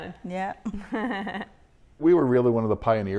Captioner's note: chuckling